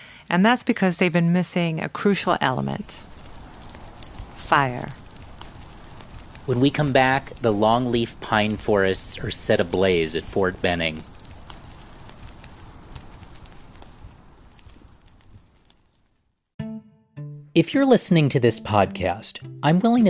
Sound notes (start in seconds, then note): 3.8 fire noise